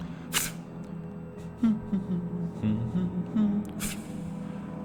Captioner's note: hum hum humm humm